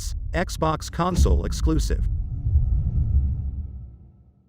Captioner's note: dramatic sound